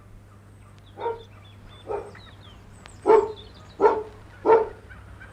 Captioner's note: dog barks